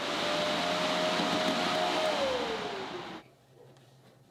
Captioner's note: machine whirring